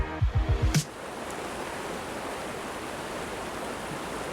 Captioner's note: river rushing